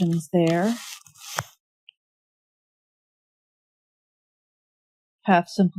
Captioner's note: drawing noises